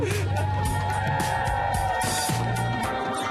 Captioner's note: cheering